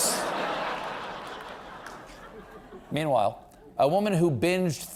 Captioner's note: laughter